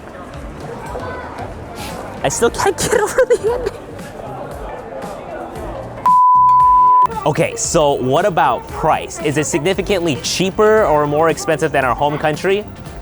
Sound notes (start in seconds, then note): 2.4 fake weeping